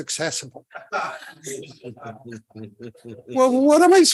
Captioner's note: crowd laughing